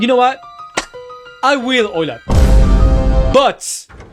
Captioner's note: dramatic clap; Vine boom